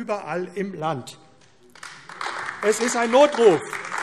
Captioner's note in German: Beifall AfD